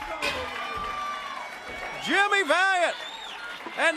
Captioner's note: crowd cheering